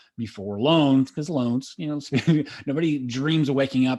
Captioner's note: laughs